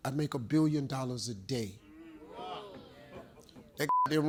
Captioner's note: Steve Harvey laughs; beep